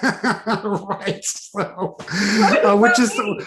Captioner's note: laughing